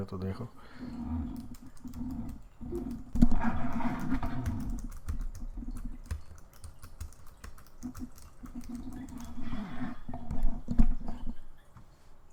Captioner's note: typing